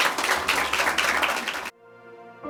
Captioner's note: audience clapping